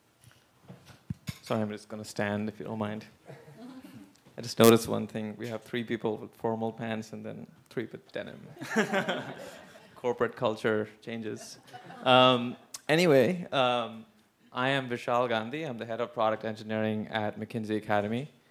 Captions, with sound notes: >> So I'm just gonna stand, if you don't mind. I just noticed one thing, we have three people with formal pants and then three with denim. >> [LAUGH] >> Corporate culture changes. Anyway, I am Vishal Gandhi. I am the head of product engineering at McKinsey Academy.